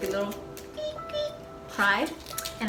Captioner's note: baby bat sounds